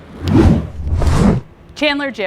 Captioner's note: wind whooshing